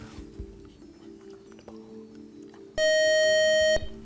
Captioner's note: buzzer